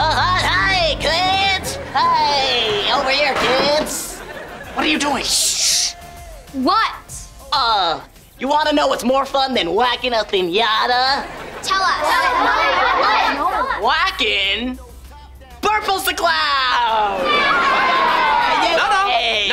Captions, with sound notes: Hey, kids. Hi, over here, kids. - What are you doing? - Shh. What? Uh, you want to know what's more fun than whacking a finata? Tell us. - What? - What? Whacking... Burples, the clown. [cheering] No, no. No, no, no.